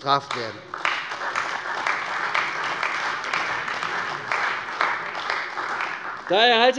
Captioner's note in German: Beifall bei der CDU